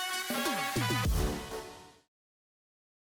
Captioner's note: whoosh